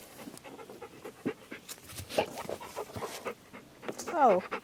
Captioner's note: dog panting